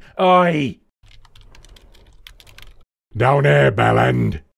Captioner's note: typing